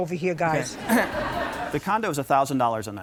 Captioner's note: audience laughing